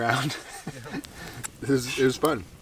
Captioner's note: men laughing